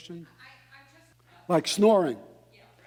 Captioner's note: woman speaking in background